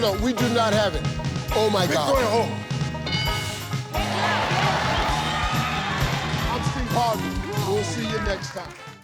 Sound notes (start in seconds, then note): 3.0 bell chimes; 3.9 audience cheering